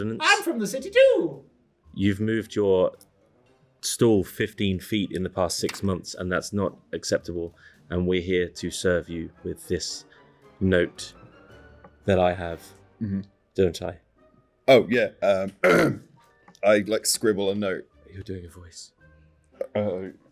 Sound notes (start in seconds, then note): 15.4 clears throat